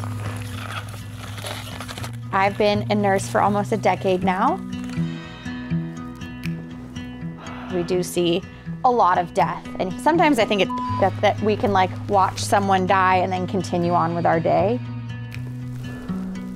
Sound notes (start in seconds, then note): 0.0 skis creaking; 4.8 bright music continues; 10.6 beep